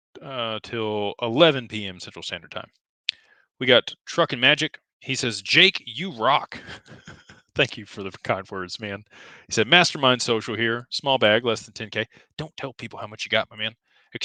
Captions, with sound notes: to hang out till 11:00 p.m. Central Standard Time. We got Truck and Magic. He says, "Jake, you rock." [laughter] Thank you for the kind words, man. He said, "Mastermind social here. Small bag, less than 10K. Don't tell people how much you got, my man.